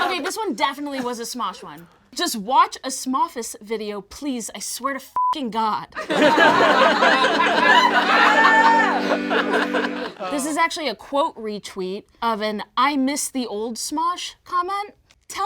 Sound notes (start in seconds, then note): 5.2 beep; 6.0 all laugh; 6.2 plays accordion